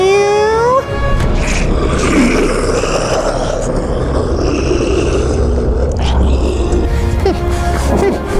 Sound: margore roars

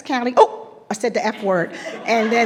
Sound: attendees laughing

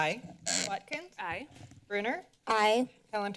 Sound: microphone sounds

